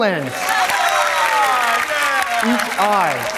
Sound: audience applauding

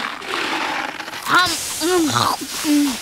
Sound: chewing

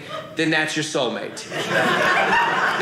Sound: audience laughing

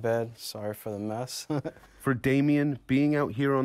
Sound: laughter

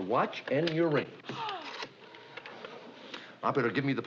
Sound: gasps

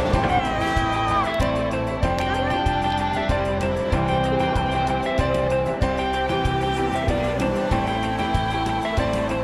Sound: cheering

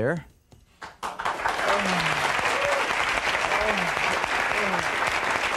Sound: audience applauding

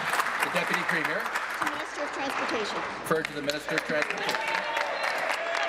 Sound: applause

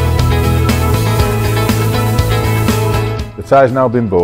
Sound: air blowing at pressure

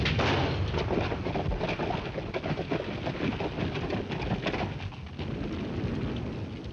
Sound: artillery booming; fire crackling

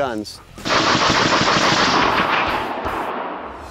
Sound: rapid gunshots

